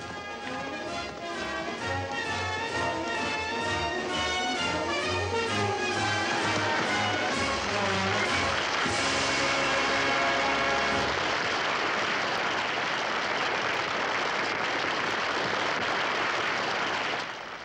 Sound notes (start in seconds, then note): 0.1 grand orchestral music; 7.0 audience applauds